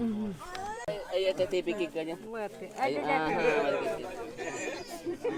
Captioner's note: speaking in foreign language